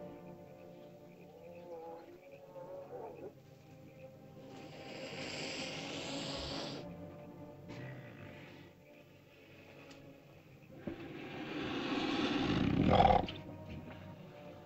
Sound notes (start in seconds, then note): 0.0 ominous music; 4.5 lizard hisses; 7.1 ominous music; 10.8 lizard hisses & growls; 13.8 ominous music